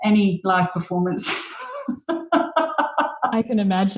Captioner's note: laughs